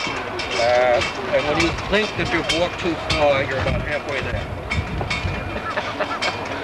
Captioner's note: laughter